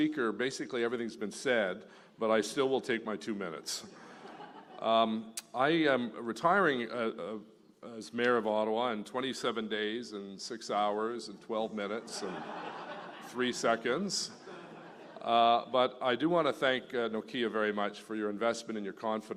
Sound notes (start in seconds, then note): 0.0 speaking French; 4.0 laughter; 12.0 laughter